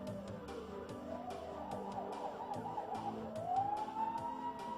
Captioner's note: police siren